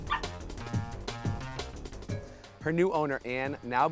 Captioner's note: dog barking; shouting